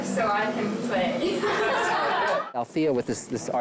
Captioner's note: laughing